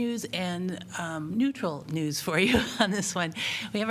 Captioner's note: laughter